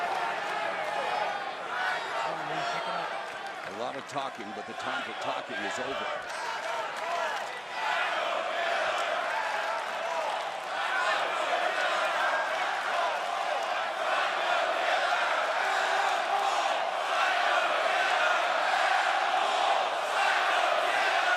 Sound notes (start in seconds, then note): 4.6 crowd cheering